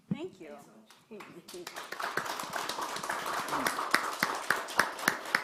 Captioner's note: audience applauding